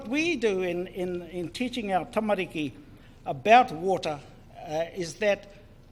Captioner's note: foreign Language